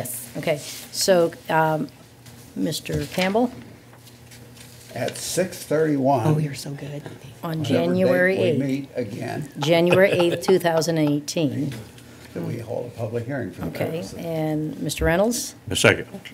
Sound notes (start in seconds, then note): 9.6 laughter